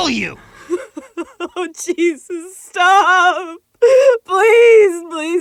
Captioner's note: sobbing